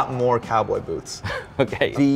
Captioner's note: laughs